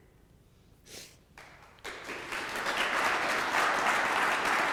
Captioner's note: audience clapping